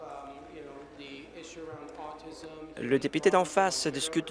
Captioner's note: scattered applause